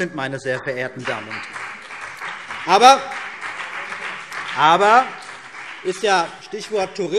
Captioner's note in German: Beifall CDU und BÜNDNIS 90/DIE GRÜNEN